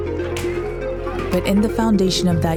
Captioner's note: bat tapping